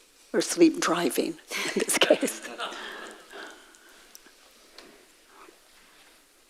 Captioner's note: audience laughs